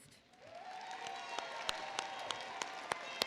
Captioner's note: applause